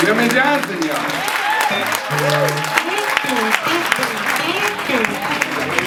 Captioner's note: audience cheering